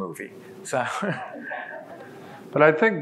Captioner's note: laughs